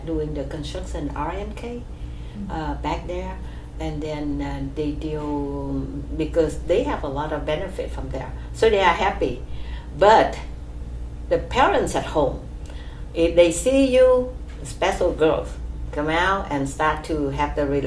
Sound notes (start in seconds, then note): none